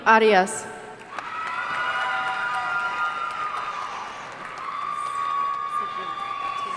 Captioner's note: audience cheering and applauding